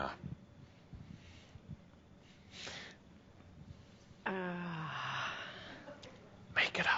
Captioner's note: whispers